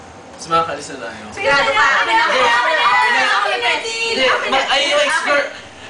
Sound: ranting, Shouting, Complaining

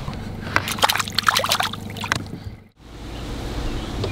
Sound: splashing

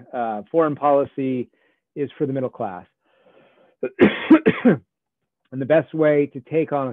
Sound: coughs

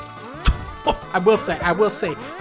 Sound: laughs

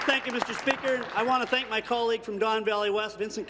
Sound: applause

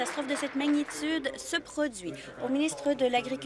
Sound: applause

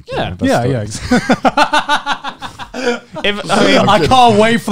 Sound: laughing

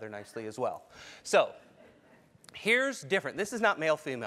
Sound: laugh

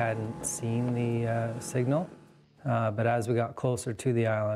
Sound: voiceover

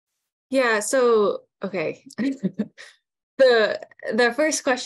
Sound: chuckles

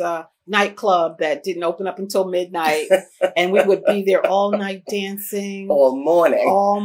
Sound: laughter

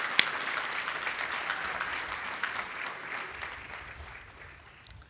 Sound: applause

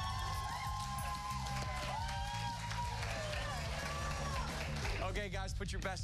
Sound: cheers and applause

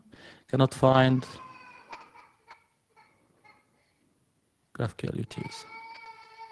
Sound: child crying in background

